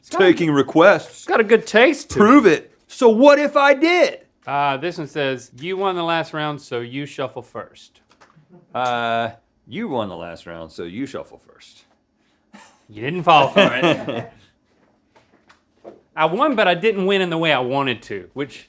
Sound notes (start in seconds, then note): 13.3 Rhett laughs